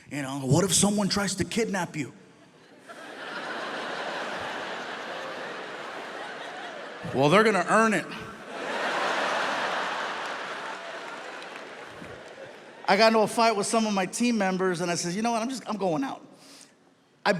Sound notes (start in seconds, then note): 2.3 audience laughs; 8.2 audience laughs; 8.6 audience applauding